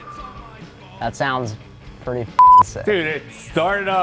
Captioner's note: beeping